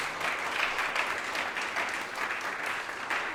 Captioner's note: applause